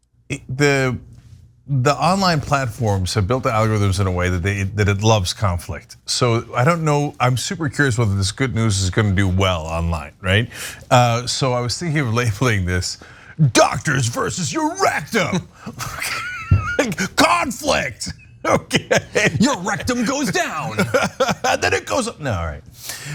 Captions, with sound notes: The online platforms have built the algorithms in a way that they that it loves conflict. So I don't know, I'm super curious whether this good news is gonna be well online, right. So I was thinking of labeling this doctors versus your rectum [LAUGH] conflict, okay. Your rectum goes down then it goes up no all right.